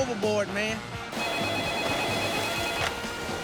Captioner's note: ring